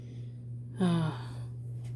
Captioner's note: sigh